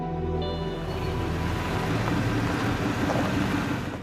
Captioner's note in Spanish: Ruido de motor de auto